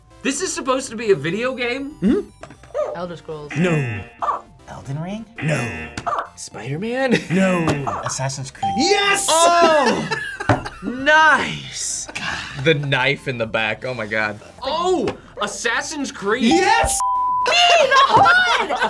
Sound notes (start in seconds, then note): 3.4 buzzer barks; 3.5 buzzer; 5.3 buzzer barks; 5.4 buzzer; 7.3 buzzer barks; 9.4 laughs